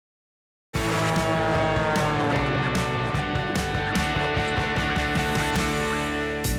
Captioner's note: upbeat music; airplane whooshing